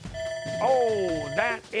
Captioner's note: bell rings